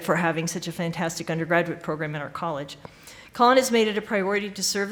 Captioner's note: none